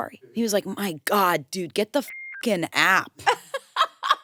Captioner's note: beep; laughs